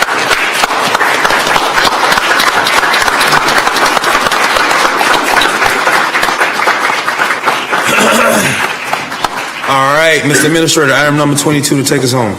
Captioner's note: applause